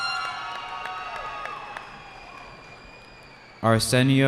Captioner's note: cheering